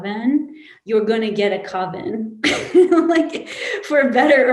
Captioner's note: laughs